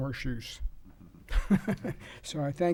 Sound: laughing

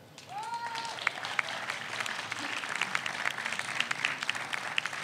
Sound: audience applauds

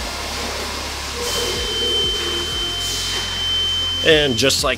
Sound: long beep

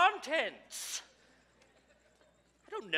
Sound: audience chuckles

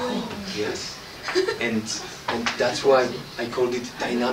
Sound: laughter

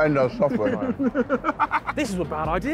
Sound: all laughing

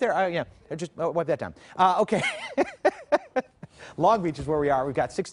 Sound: laughter

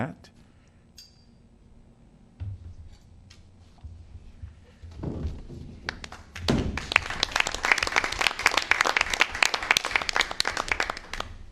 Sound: applause

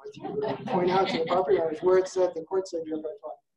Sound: audience laughing

